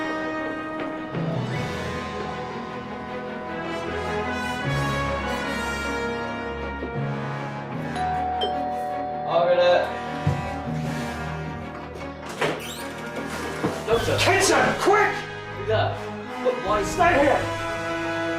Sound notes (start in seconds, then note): 7.9 doorbell rings